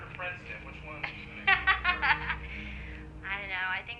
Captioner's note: laughing